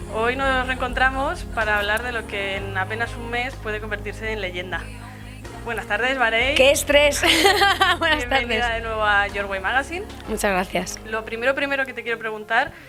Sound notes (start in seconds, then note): 7.4 laughs